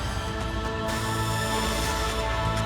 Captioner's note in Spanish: quejidos